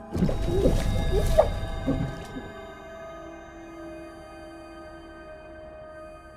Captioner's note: ominous music; scream gurgling